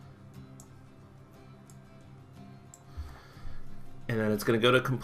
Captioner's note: clicking